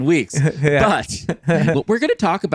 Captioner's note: chuckles